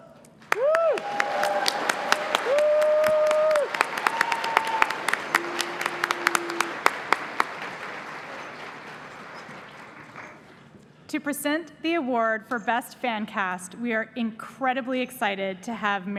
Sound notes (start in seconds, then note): 3.3 applause